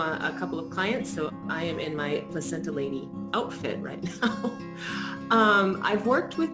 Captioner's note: laughs